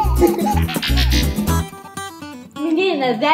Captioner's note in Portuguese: efeito sonoro de transição